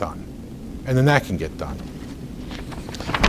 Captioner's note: rustles papers